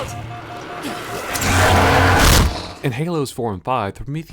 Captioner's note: promethean howls